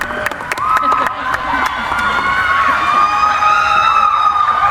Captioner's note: cheering